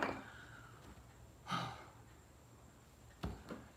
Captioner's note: sigh